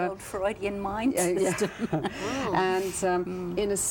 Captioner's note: chuckling